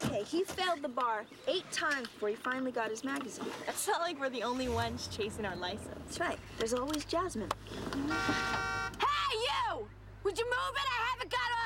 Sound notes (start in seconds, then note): 8.0 horn honking